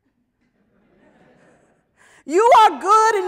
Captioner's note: audience laughs